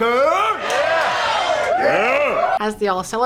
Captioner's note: the strippers cheer